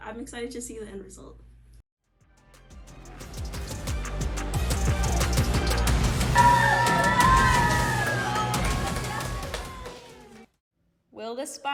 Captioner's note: applause